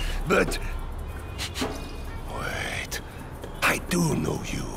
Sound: sniffing

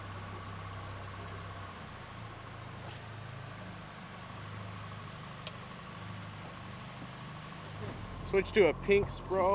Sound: rod whipping; boat engine running

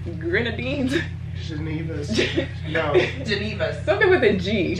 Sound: laughs

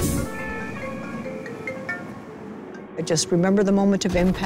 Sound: phone ringing

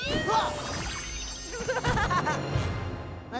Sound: laughing

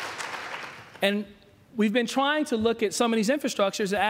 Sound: applause

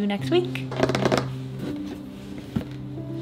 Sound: fingernails tapping; relaxing music

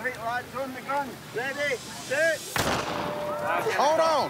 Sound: starter pistol

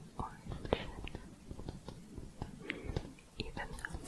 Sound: tapping

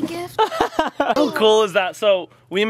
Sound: laughter

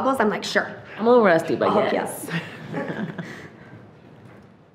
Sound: chuckles

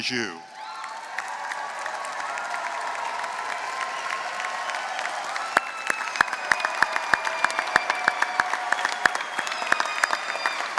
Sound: applause

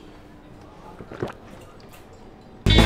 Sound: swallows

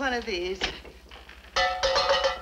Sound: cup clinks

